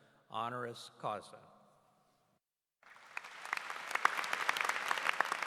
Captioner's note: applause